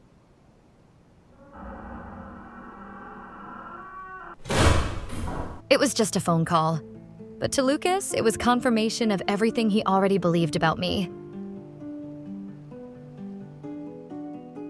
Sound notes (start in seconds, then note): 4.3 door slams shut